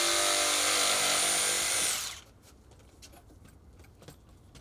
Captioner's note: saw buzzing